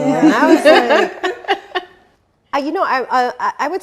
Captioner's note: laughing